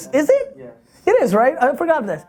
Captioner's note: voiceover